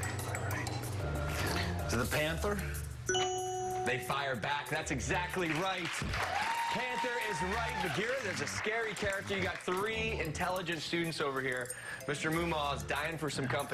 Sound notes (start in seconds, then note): 9.0 cheers and applause